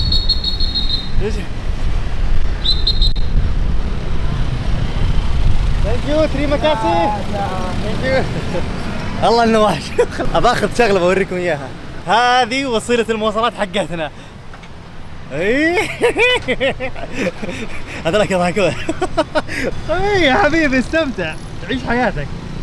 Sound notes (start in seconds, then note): 0.0 traffic Officer Whistles; 15.5 laughing